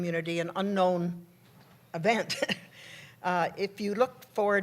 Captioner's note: laughs